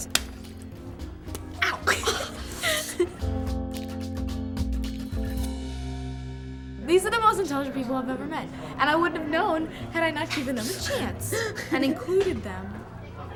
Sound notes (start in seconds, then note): 11.6 laughter